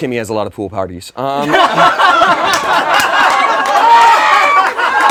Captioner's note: laughing